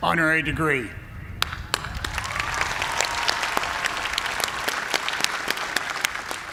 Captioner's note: cheers and applause